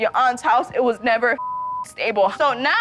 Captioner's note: beep